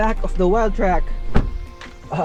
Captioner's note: door thuds